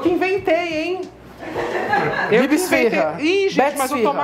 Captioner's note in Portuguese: risos